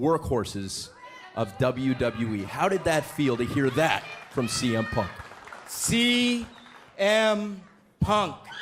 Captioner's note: crowd cheering